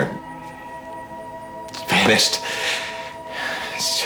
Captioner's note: inhales sharply